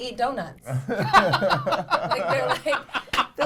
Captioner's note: laughter